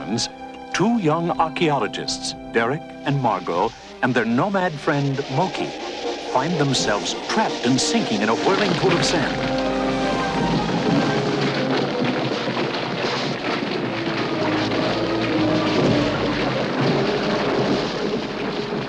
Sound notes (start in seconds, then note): 11.7 sand and rocks crumbling